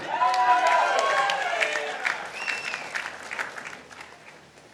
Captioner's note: participants applauding